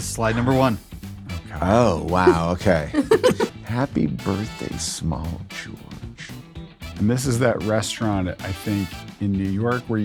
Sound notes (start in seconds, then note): 2.2 laughs